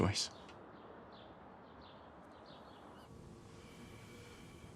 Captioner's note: birds chirping; ventilator whooshing